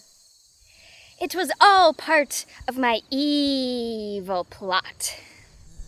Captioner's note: normal voice